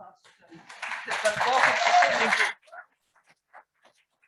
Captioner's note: audience applauds